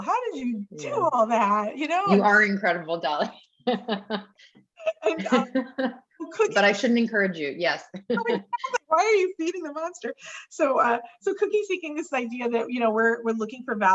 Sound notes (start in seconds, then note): 3.1 laughs